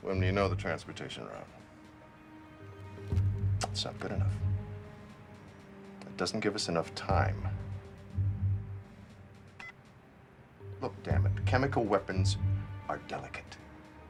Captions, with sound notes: When we know the transportation are out. Is that good enough? It doesn't give us enough time. (beeps) Look, dammit, chemical weapons are delicate.